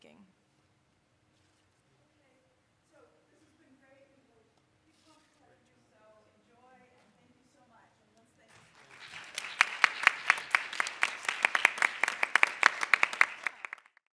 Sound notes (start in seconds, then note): 5.2 speaking off mic; 8.5 applauding